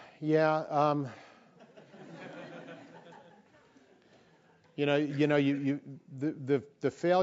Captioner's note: laugh